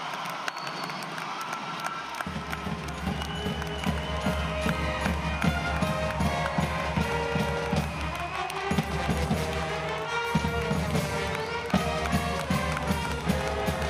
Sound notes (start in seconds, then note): 2.2 cheering and applause